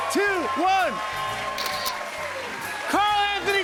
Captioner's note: camera shutter clicks